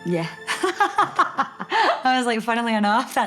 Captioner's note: she laughs